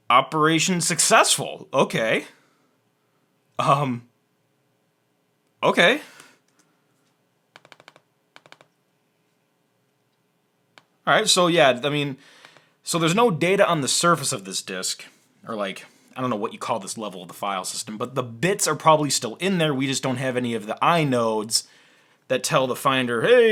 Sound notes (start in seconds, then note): 7.5 typing noises